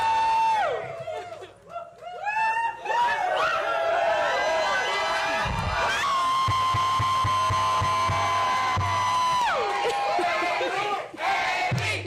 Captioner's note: cheers and applause